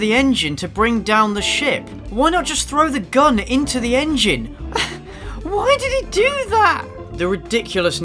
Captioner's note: exasperated laugh